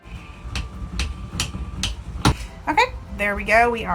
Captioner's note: hammer taps